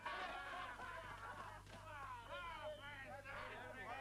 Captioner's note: crowd reveling